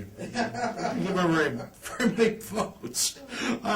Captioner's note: laughs